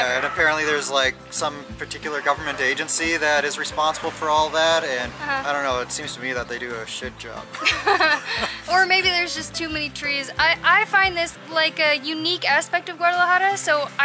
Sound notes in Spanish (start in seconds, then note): 7.5 Risas